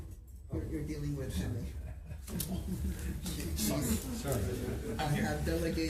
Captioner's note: giggles